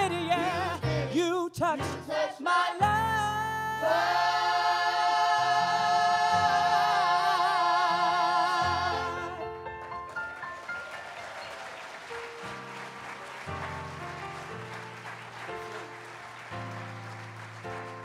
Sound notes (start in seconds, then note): 9.7 applause